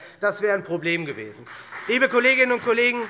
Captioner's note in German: Heiterkeit und Beifall SPD